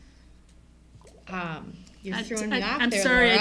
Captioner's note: stuttering